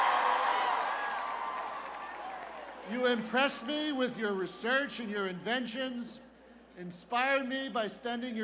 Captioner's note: cheers